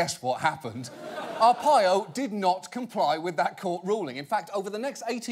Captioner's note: audience laughing